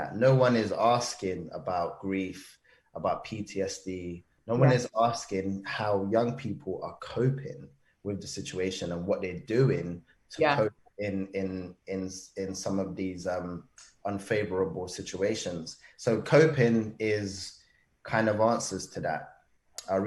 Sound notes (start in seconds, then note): none